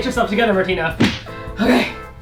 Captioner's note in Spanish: Bofetada